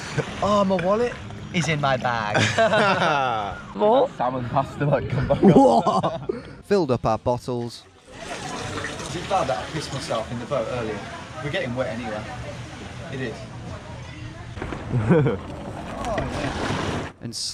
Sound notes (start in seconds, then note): 2.3 both laughing; 5.0 both laughing; 15.0 laughing